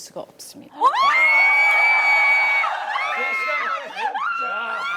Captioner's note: screaming